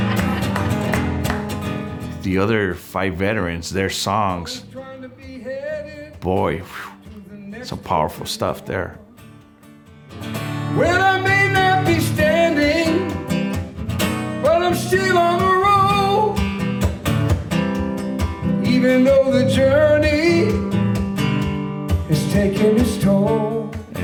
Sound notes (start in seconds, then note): 0.0 singing; 0.0 laughs; 5.5 quiet whistle; 10.8 singing